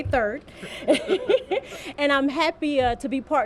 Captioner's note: laughter